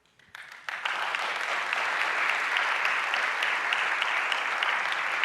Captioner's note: audience applauding